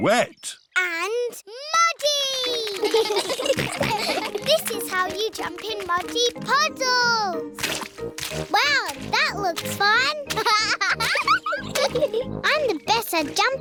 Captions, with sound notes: -And muddy! -(CHILDREN GIGGLE) This is how you jump in muddy puddles! Wow, that looks fun! (LAUGHS) I'm the best at jumping,